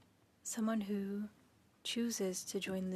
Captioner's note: speaking French